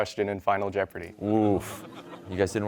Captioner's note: audience laughing